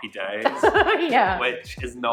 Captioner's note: laughing